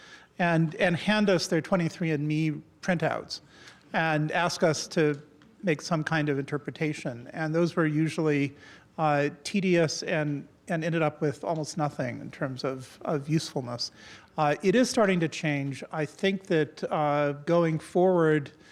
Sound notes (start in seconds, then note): none